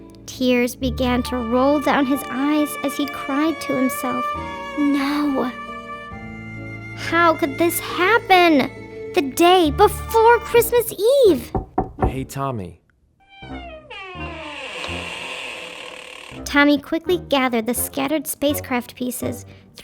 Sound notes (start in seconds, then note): 11.4 knocking on door; 13.2 door creaking; 13.3 suspenseful music